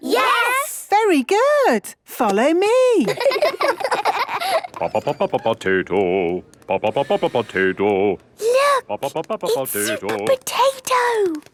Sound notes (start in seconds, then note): 3.0 children laughing; 4.9 sing-song voice; 8.5 hushed